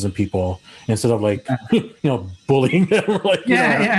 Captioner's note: laughing; laughs